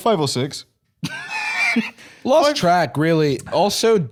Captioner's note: laughs